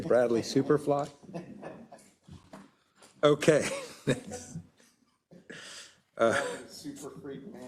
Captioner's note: laugh